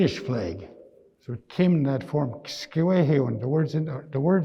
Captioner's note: speaking in Nêhiyawêwin